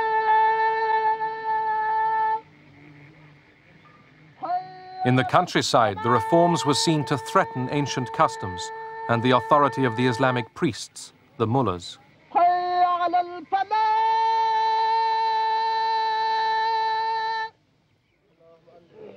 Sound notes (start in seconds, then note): 13.4 chanting continues